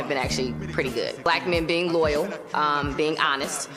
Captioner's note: none